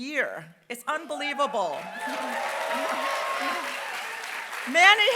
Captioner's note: applause